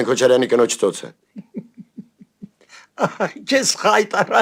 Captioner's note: giggle